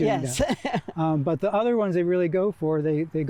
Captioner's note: chuckling